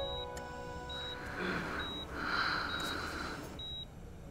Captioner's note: Padimini exhales